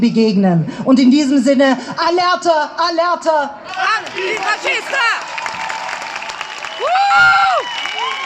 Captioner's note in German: Applaus